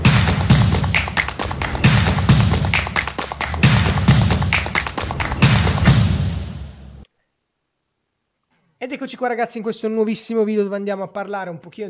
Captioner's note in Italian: Applauso